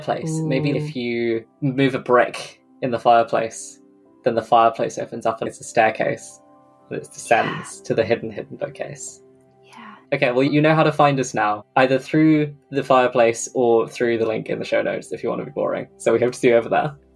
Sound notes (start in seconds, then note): 9.4 whispers